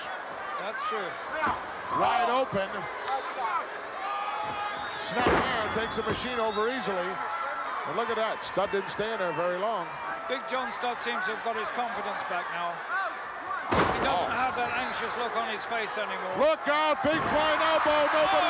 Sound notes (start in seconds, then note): 13.7 big Machine thuds